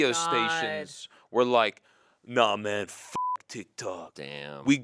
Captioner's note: beep